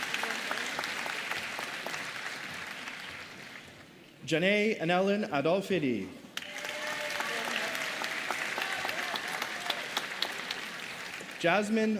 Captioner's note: applause